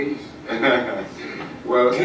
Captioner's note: Dr. King laughs